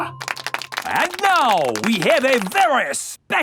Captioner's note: applauding